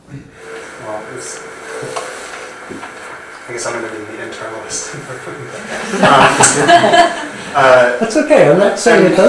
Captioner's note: audience laughs